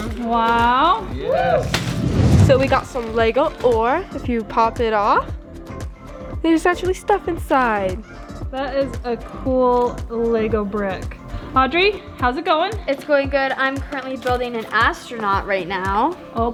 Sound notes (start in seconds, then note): 1.1 whooping